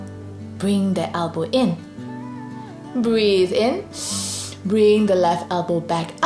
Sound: breathes in deeply

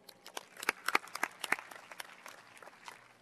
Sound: applause

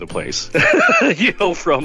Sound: laughs

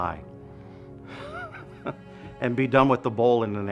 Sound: laughing

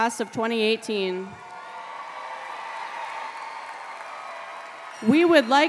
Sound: applause

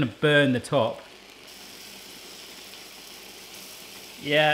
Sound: sizzling

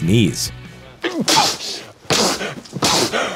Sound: sneezing

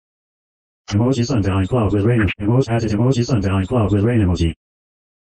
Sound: voiceover speaking

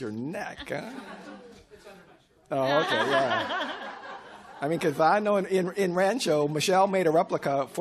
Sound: away from microphone

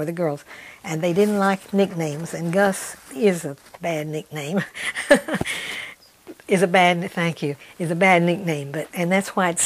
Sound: laughs

